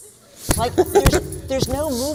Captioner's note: thumping